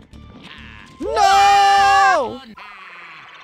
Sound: Mario and Ricky yelling to their deaths

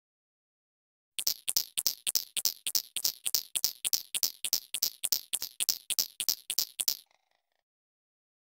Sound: sound of ticking counter

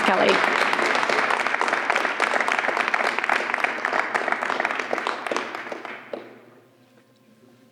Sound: applause

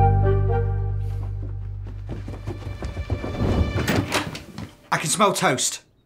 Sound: footsteps

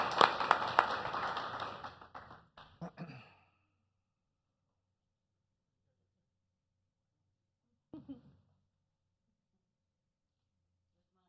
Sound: applause

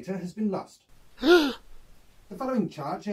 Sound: gasp

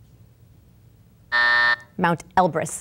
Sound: buzzer going off

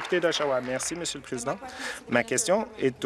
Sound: applause

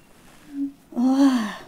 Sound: sighs

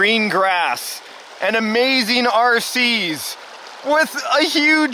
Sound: excitedly

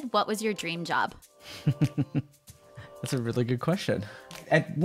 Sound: chuckling

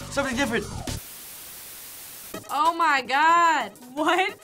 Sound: static

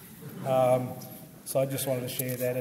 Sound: audience laughs

